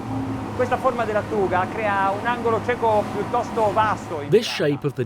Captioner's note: speaking in foreign language